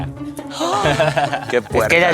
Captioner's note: gasp